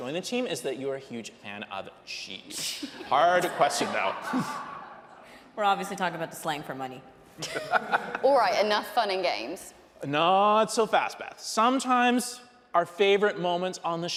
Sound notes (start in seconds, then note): 2.8 audience laughing; 7.4 audience laughing; 7.4 hosts laughing